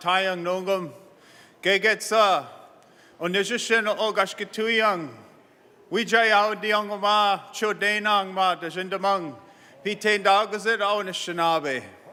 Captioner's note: speaks in native tongue